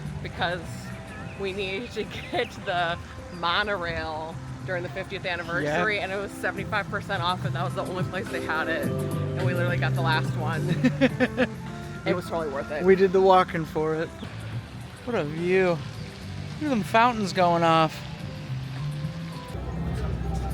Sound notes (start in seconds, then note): 10.6 laughs